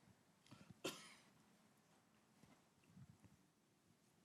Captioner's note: cough